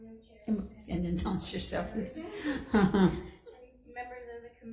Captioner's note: laughing